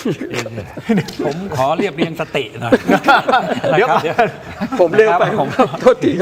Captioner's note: laughs